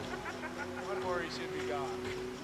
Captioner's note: man laughing